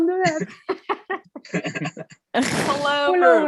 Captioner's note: chuckling